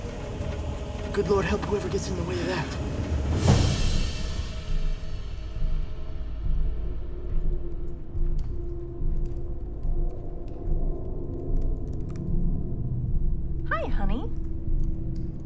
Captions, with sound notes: Good Lord, help whoever gets in the way of that. (impactful music) (keyboard clicking) - Hi, honey.